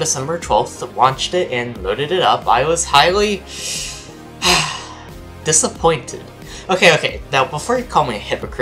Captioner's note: sigh